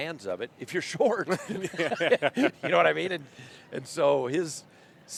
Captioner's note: laughter